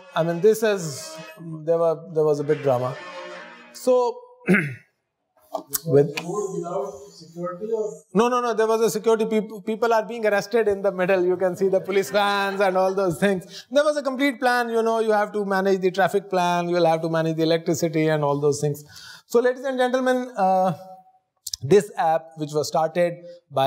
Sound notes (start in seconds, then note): 5.6 murmuring